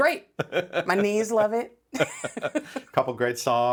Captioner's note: laughing; both laughing